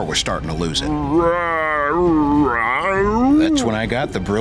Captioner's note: mumbling